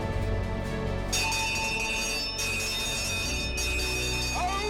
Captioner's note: bell clanging